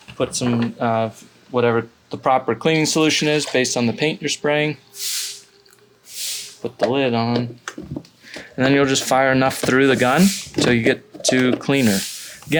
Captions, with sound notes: put some of whatever the proper cleaning solution is based on the paint you're spraying, (liquid pouring) put the lid on, (lid twisting) and then you'll just fire enough through the gun till you get to cleaner.